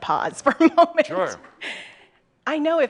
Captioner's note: she giggles